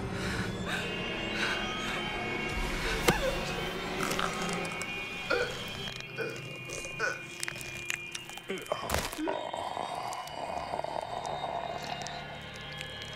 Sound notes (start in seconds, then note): 0.3 Tracy gasping; 4.2 neck snapping; 5.2 Tracy choking; 8.5 mummy growling